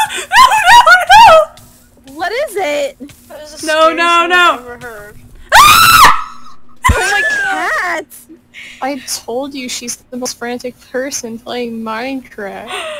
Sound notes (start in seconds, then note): 5.6 gutteral fucking scream